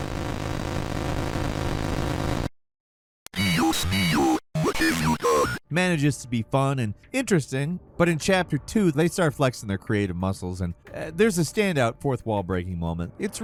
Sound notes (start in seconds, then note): 0.0 distorted static; 3.5 distorted speech